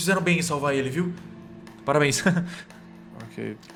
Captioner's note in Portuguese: risadas tímidas